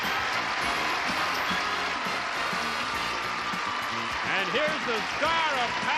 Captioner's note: applause